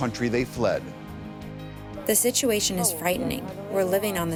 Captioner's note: through translator